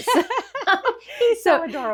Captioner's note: laughing